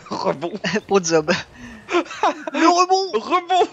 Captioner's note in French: Rires; Rires